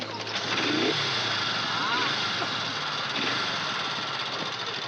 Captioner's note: engine revving